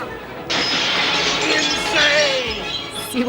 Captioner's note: glass crashes